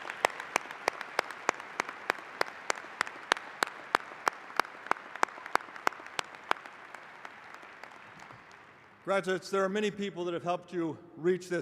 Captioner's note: applause